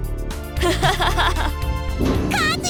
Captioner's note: laugh